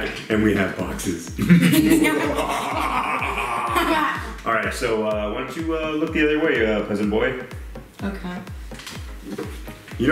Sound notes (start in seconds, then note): 1.4 both evil laugh